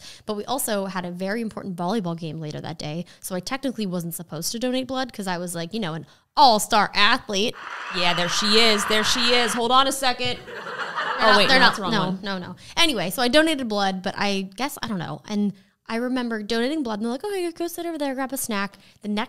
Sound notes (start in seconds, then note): 7.5 crowd applauding; 10.5 crowd laughing